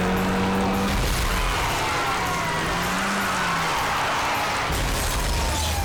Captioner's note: tires screeching; car crashing